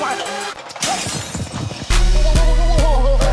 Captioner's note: intense hip-hop music; glass shatters